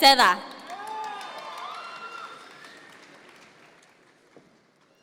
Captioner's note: audience members cheer